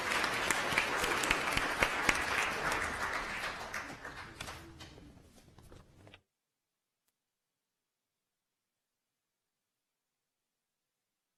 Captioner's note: applause